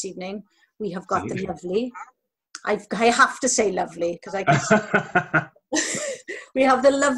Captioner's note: laughter